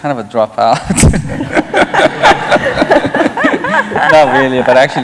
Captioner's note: laughter